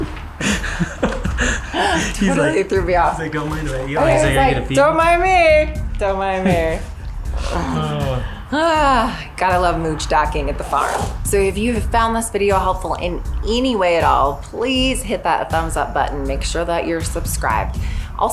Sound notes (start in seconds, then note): 0.3 both laughing; 8.8 sighing